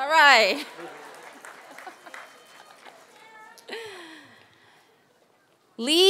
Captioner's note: laughter